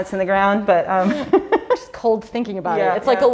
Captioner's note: laughs